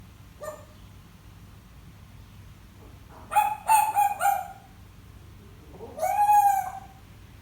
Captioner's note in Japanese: 犬の鳴き声の真似